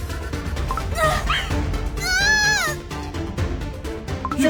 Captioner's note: screams painfully